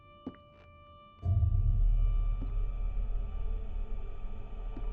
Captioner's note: footsteps tapping; suspenseful music